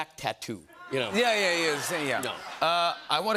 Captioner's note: laughter